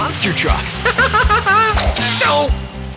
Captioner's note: giggling